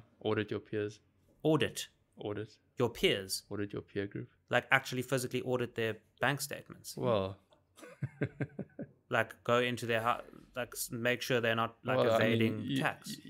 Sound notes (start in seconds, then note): 7.8 laughing